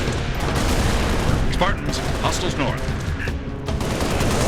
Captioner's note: radio